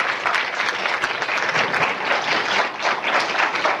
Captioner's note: applause